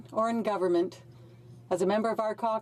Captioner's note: speaking French